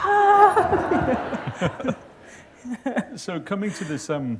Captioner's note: laughter